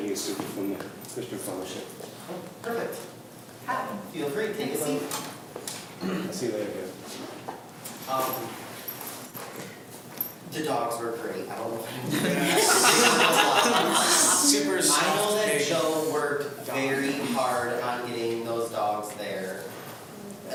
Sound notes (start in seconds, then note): 11.9 group laughs